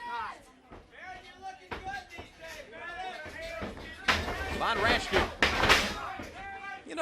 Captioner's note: crowd chatter